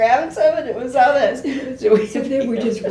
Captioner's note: laughs